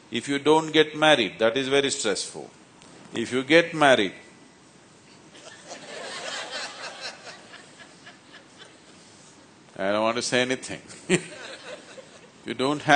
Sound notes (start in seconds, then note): 5.3 laughter; 11.1 laughs